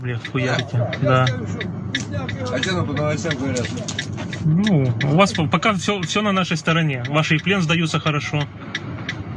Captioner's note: laugh